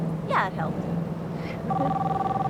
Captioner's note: phone ringing